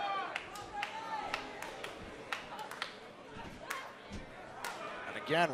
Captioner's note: crowd cheering